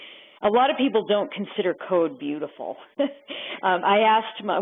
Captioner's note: chuckles